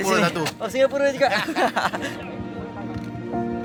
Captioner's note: laugh